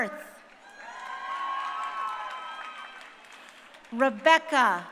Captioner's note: crowd cheering